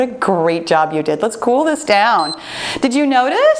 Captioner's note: timer beeps